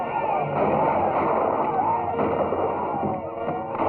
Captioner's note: battle cries